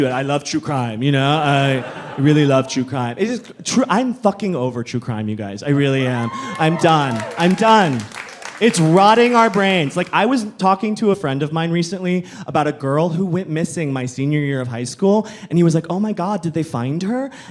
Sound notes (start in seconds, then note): 7.7 audience cheering